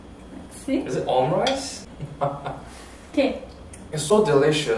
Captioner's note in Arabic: يضحك